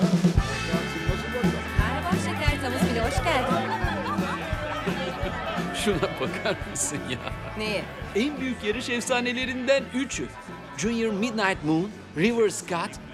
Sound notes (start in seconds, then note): 3.7 country music; 3.7 people murmur